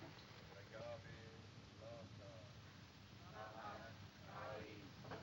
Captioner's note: chanting, Indistinct, In Distance